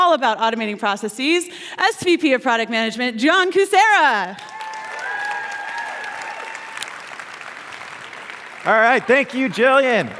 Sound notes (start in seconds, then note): 4.3 cheers and applause